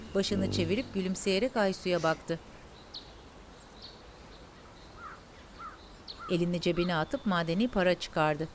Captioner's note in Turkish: Kuş cıvıltısı sesi